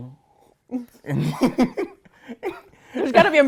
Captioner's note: giggles